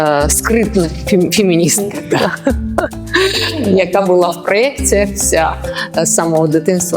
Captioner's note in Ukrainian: сміх